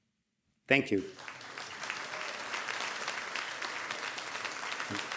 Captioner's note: audience applauding